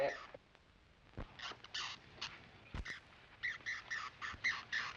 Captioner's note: bat screeching